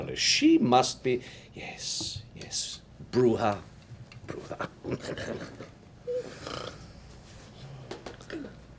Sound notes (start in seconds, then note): 4.4 laughing